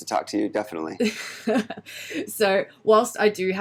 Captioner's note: laughs